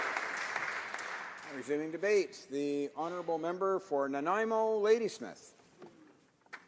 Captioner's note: applause